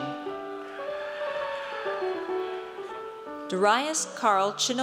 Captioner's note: audience cheers